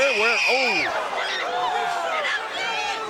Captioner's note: fan screams